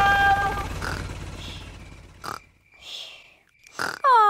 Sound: baby alexander snoring

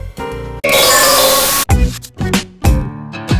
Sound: alArM; coMpUtEr NoIsE; sTaTiC nOiSeS

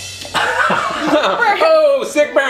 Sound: laughing

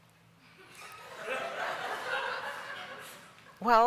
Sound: laughter

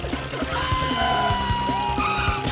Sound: shrieks

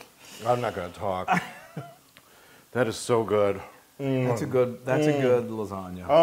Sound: laugh

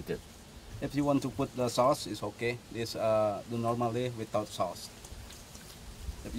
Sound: chef speaking

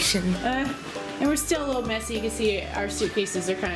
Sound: laughs

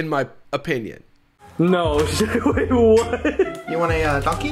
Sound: laughs

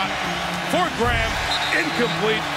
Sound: whistle blowing

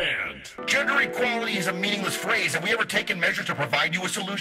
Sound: modulated voice

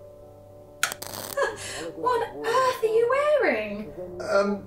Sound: laughing

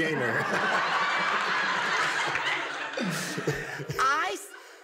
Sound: laughter

